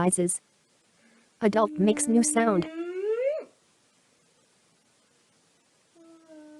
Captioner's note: boy vocalizes; woman humming